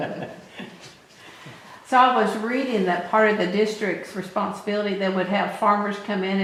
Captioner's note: laughter